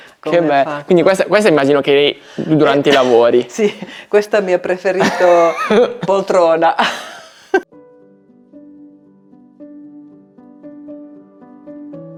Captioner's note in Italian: risate